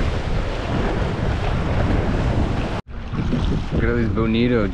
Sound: waves breaking on rocks

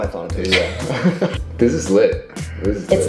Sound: laughing

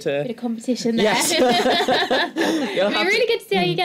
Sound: laughter

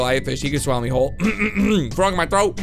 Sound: clears throat

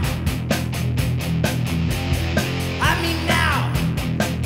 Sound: none

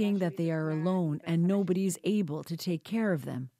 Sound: speaking alternate language

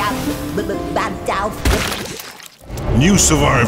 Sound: gruesome Splat

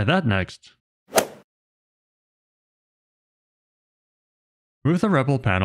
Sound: golf ball hit sound effect

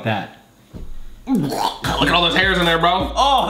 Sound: gagging

